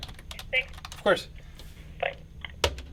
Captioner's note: radio Chatter